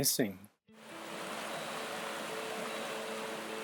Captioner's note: water rushing